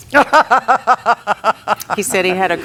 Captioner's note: laughs